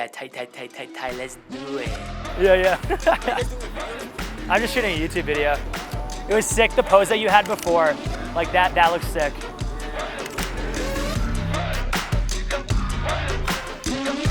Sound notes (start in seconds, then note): 1.9 laughing; 3.7 murmurs; 9.7 hip hop music